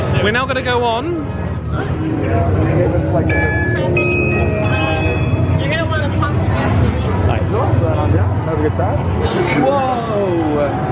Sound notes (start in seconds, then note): 3.2 machine rings; 3.6 people chattering